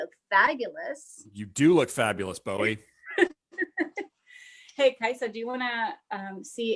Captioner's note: chuckles